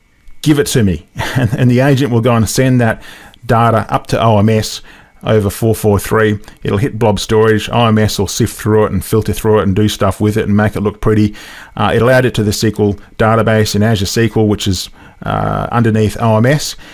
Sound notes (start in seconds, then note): 1.2 laugh